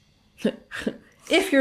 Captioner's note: chuckling